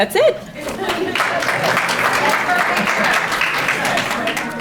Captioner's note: audience applauding